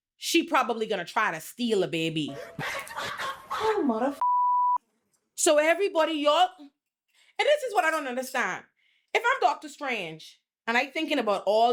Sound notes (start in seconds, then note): 2.3 laughing; 4.2 beep